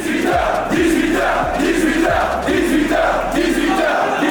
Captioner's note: chanting